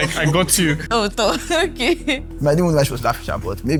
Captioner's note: laughs